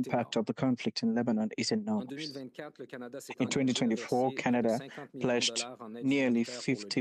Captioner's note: speaking French